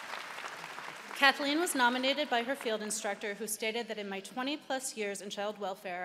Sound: applause

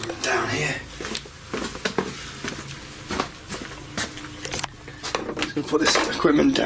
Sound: footsteps clacking on stairs

